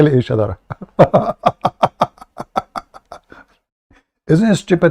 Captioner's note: Ketawa